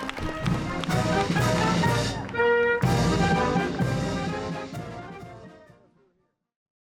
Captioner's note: applause